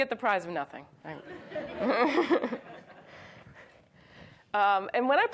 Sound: audience laughs

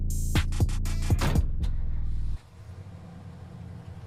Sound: engine starts

